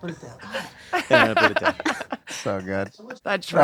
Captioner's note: laughter